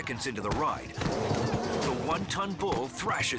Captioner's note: feet stomping; bull growls